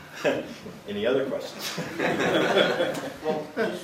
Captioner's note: laughter